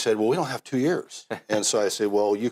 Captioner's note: laughs